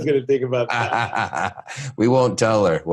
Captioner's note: laughing